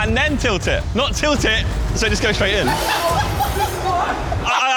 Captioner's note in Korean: 웃음